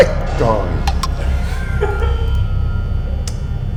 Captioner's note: pfft